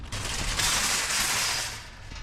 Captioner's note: shopping carts shake